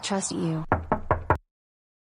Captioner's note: door knock